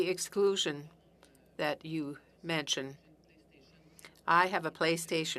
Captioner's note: speaking French